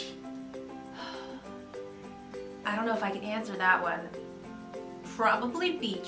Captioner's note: sigh